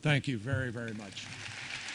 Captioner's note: applause